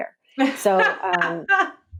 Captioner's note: laughs